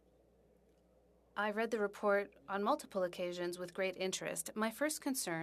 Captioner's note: speaking French